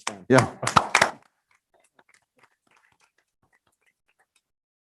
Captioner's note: members applauding